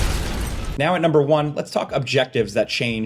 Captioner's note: glass shattering; explosion rumbling; voiceover